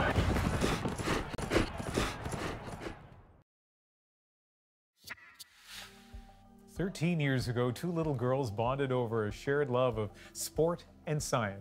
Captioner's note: horse snorts